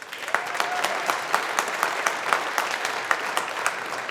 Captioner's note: audience applauding